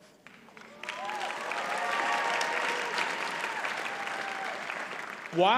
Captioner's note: audience cheers and applauds